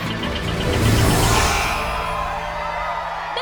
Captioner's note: crowd cheers; buzzer blares